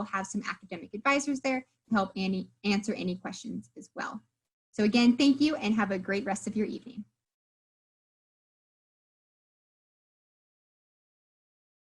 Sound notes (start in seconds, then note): 7.6 silence